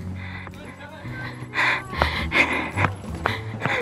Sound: laughing

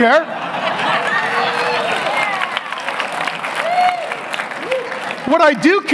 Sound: audience clapping

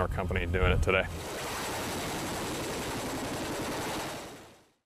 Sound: helicopter takes off

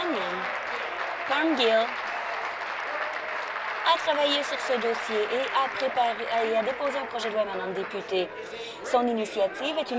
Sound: applause

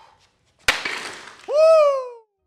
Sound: blocks breaking

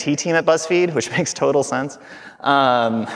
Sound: chuckling

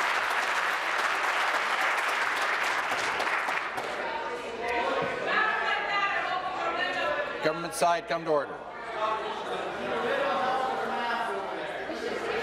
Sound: applause

